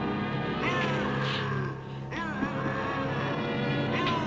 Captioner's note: Popoca growling